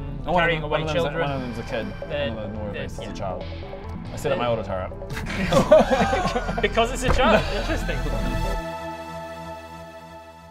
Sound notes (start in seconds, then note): 5.2 shocked laughter